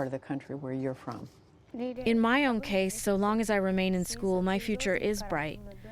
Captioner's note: through translator